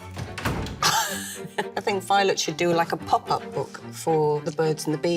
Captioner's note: laughing